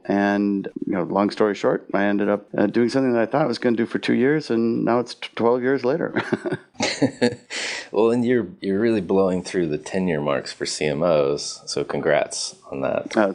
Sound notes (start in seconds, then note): 6.1 laughs